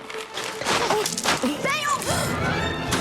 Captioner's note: grunts